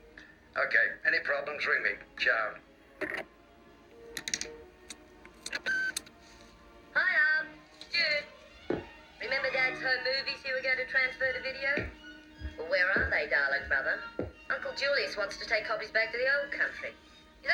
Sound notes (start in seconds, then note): 4.1 receiver clicks; 5.5 machine beeps